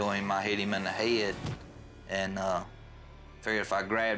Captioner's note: hand thudding